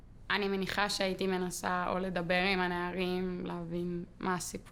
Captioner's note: speaking foreign language